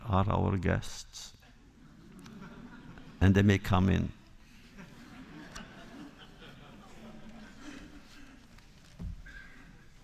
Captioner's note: laughter